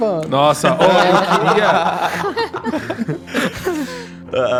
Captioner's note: laughs